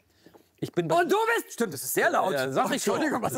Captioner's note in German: schreit